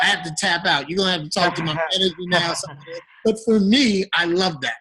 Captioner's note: microphone static